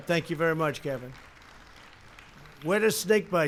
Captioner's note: applause